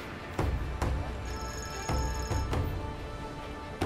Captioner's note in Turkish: Telefon zili sesi